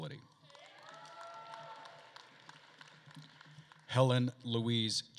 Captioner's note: attendees cheering and applauding